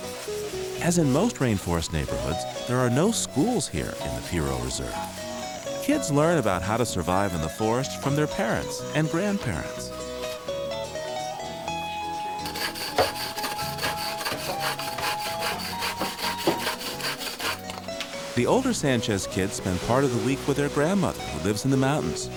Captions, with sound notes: AS IN MOST RAINFOREST NEIGHBORHOODS, THERE ARE NO SCHOOLS HERE IN THE PIRO RESERVE. KIDS LEARN ABOUT HOW TO SURVIVE IN THE FOREST FROM THEIR PARENTS AND GRANDPARENTS. [SAWING] THE OLDER KIDS SPEND PART OF THE WEEK WITH THEIR GRANDMOTHER IN THE MOUNTAINS,